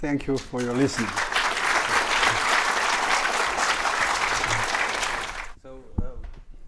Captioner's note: audience applauding